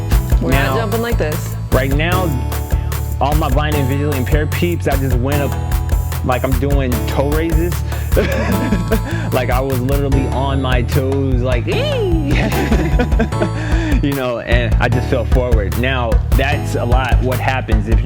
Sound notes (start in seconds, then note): 8.0 laughs; 12.3 both laugh